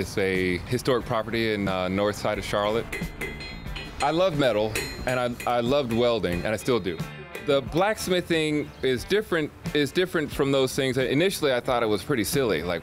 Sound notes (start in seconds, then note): 2.8 metal tapping